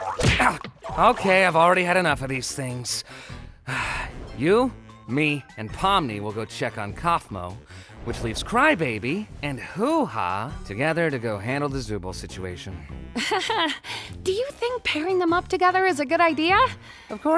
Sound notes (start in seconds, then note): 3.6 sighs; 13.2 laughs nervously